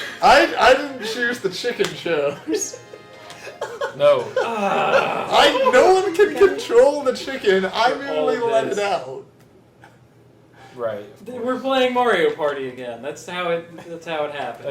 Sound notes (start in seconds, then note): 4.3 groans